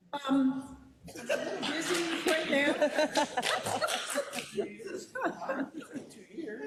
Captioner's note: laugh